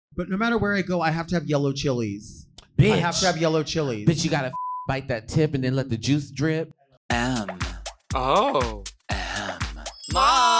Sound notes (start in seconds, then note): 4.5 beep